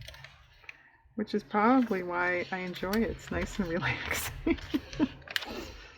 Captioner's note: laughs